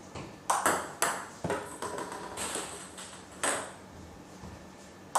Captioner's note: ball ping pong hitting continues